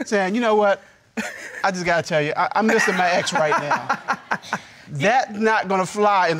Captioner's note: laughing